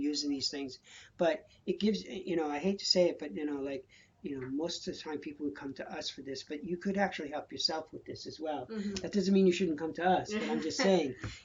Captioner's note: laughter